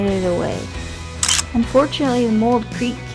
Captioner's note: photo click